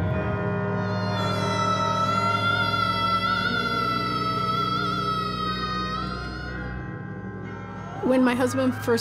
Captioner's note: screaming